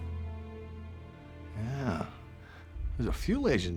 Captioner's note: scottish accent